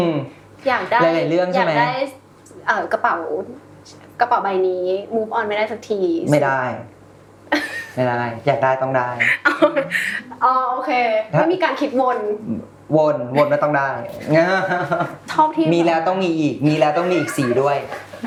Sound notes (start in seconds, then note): 9.2 laughs; 14.6 laughs